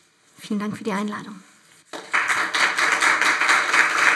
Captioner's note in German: Applaus